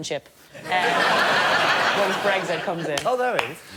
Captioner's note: laughter